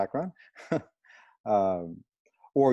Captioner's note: laughter